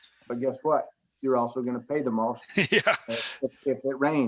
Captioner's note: chuckling